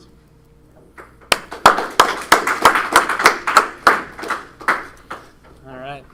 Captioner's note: applause